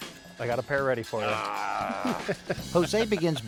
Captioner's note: laughs